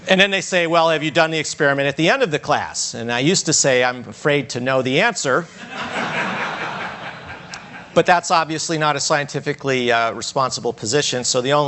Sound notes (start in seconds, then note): 5.5 audience laughs